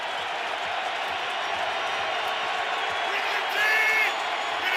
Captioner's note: crowd cheers